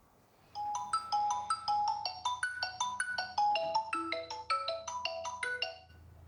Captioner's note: telephone ringing